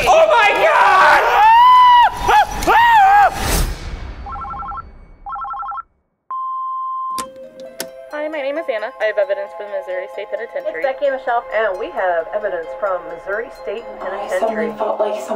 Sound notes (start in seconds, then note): 2.7 screams; 4.2 phone beeps; 5.2 phone rings